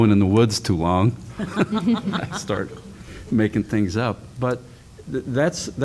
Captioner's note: laughter